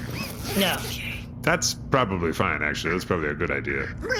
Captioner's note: zipping smaller bot back into bag